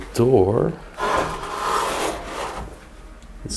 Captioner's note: door hinges squeaking